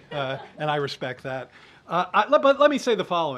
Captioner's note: laughter